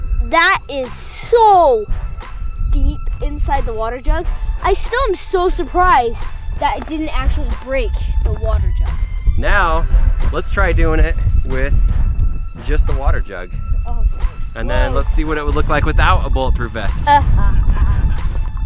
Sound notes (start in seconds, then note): 17.0 laughs